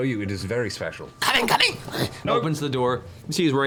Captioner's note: grunts